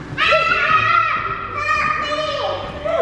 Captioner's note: squealing